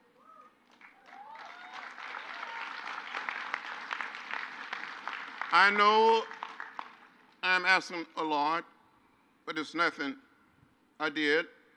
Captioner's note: crowd applauds